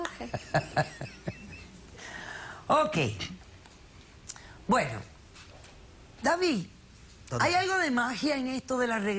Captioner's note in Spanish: Risas